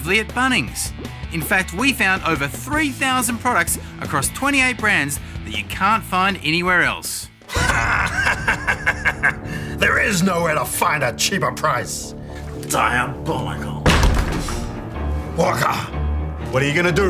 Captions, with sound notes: In fact, we found over 3,000 products across 28 brands that you can't find anywhere else. (Sniggers) There is nowhere to find a cheaper price. Diabolical. (Thud) Walker. What are you gonna do, Walker?